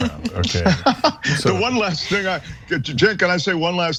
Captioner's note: laugh